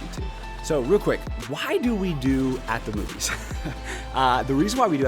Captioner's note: chuckling